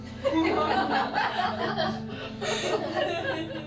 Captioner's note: laughing